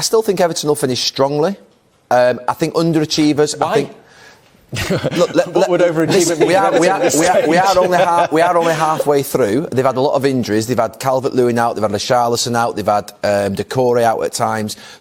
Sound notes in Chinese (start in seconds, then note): 4.7 一片笑聲